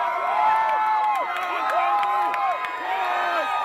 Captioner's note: people Cheering